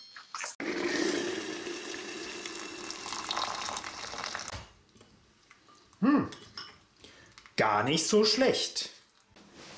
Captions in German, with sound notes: [Geräusch von kochendem Wasser] [Plätschern] Hmm! Gar nich' so schlecht!